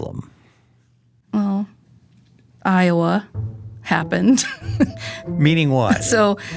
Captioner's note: laughing